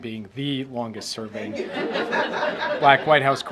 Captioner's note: laughter